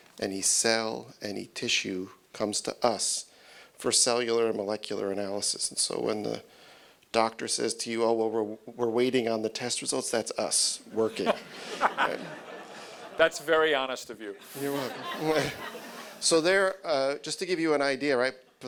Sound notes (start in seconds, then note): 10.9 audience laughing